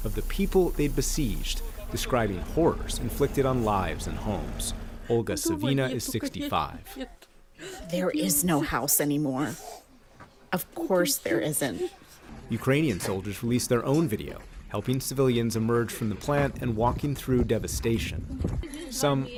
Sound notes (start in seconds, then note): 8.2 through translator